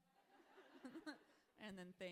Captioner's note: audience laughing